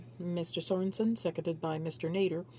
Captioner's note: speaking French